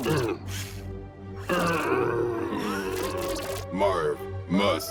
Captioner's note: Marv grunting